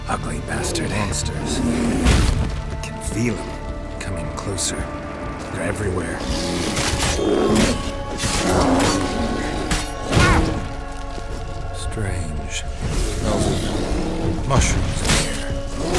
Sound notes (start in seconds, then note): 8.3 growls; 10.1 loud thud; 11.1 cries out